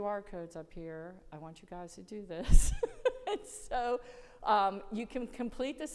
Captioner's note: laughs